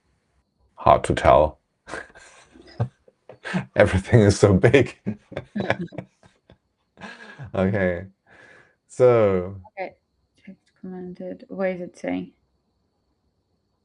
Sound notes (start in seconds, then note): 5.1 laughs